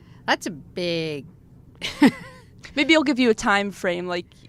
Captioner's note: laughs